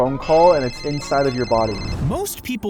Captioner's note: phone ringing